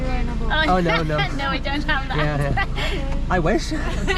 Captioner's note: laughter